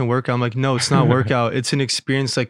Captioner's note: chuckles